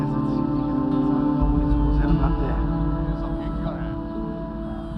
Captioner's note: speaking muffled Japanese